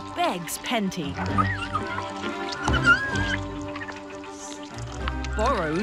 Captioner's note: orangutans squeaking